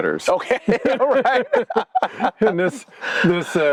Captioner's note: both laughing